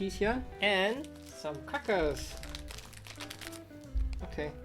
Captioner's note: wrapper crinkles